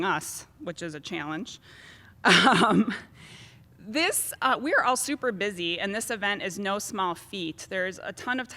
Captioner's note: laugh